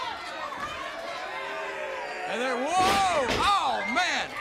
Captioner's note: crowd cheering